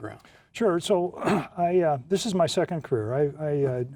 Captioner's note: coughs